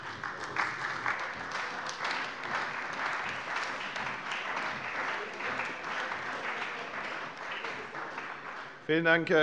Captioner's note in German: Beifall bei der CDU und dem BÜNDNIS 90/DIE GRÜNEN